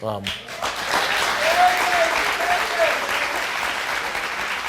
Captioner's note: crowd cheering